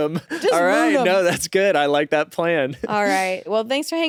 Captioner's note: laughs